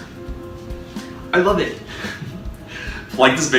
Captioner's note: giggle